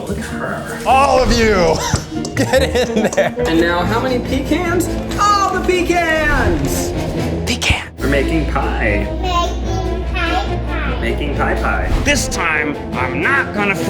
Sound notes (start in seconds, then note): 2.8 laughing; 6.3 dramatic music; 12.4 dramatic music